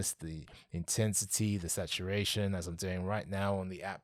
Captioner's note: none